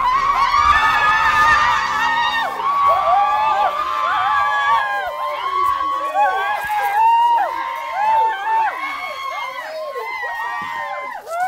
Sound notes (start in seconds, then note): 1.8 screaming; 11.2 screaming